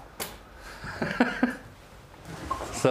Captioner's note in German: Lachen